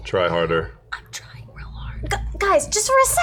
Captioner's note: whispering